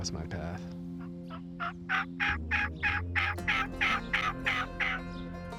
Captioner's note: imitates turkey call